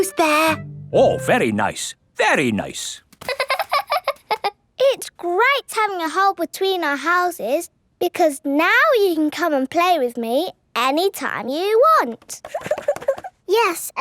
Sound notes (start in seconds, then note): 3.2 laughing